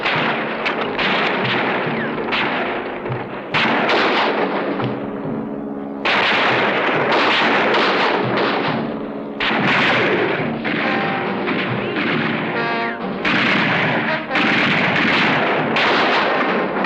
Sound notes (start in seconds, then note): 1.6 dramatic music; 1.6 guns firing